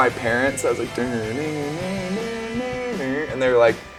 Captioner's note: imitates guitar